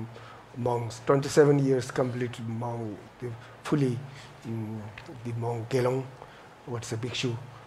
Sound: speaks foreign language

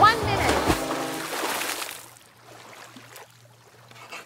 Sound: water splashing

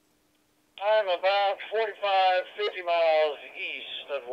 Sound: man Over Radio

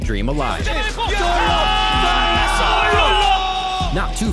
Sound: shouting in foreign language

